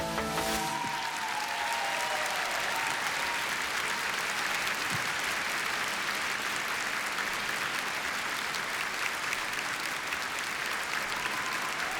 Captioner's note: applause and cheering